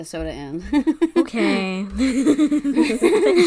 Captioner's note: laughs